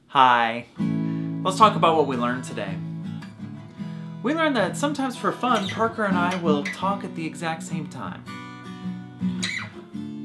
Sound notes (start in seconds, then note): none